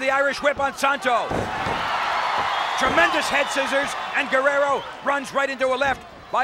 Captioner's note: applause